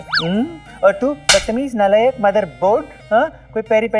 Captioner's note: Slaps